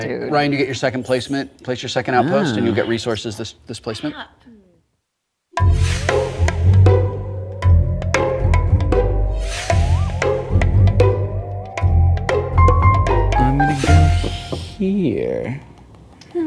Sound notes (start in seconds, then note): none